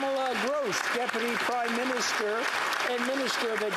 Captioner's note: applause